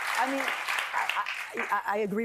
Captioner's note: applause